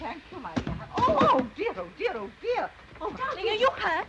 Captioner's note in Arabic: ضربة قوية